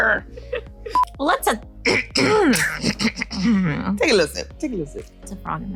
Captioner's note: clears throat